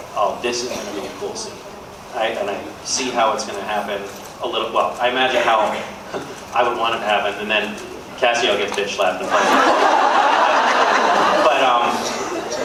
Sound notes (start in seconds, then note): 5.9 laughs; 9.3 laughs